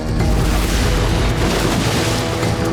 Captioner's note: splashing